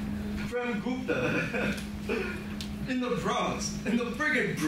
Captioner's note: laughs